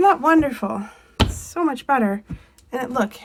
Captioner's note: wall knocking